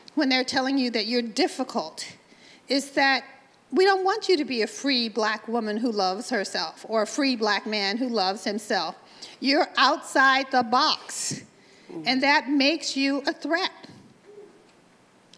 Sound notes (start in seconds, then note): none